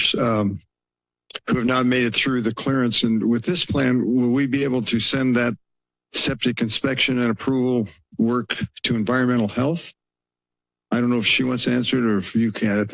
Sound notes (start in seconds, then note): 10.0 pause